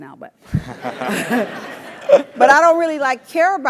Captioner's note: laugh